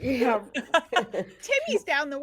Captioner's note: everyone laughs